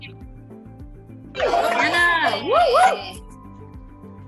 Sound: cheering

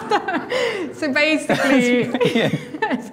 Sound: laughing; laughs

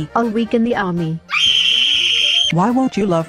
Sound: screams!

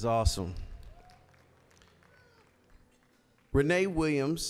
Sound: scattered applause

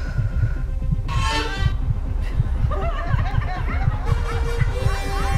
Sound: anxiety-inducing music; crowd laughing; bow squeaks; anxiety-inducing music

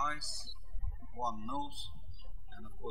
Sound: birds chirping

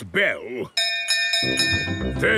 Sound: bell chimes

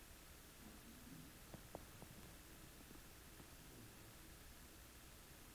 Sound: none

